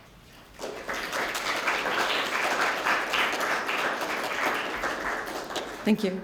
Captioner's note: applause